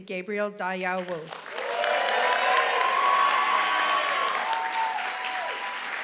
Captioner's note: applause